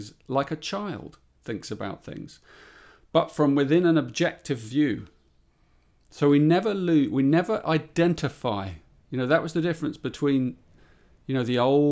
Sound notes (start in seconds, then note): none